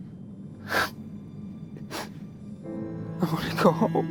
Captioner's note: crying